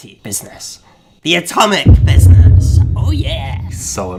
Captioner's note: explosion booming